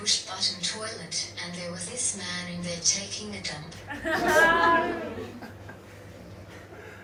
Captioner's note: audience laughs